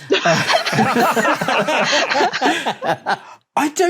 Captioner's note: group laughs uproariously